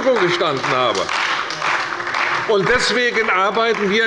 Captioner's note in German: Beifall bei der CDU